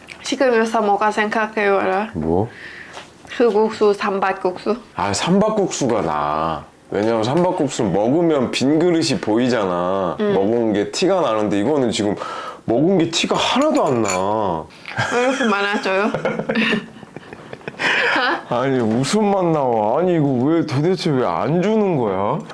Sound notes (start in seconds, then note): 14.9 laughing